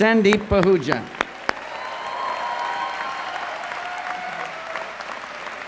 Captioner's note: applause